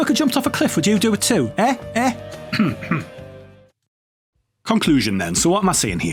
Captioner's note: cough